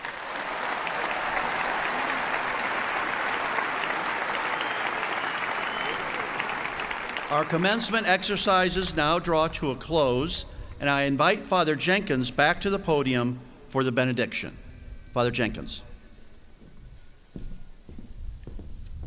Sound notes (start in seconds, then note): 2.7 applause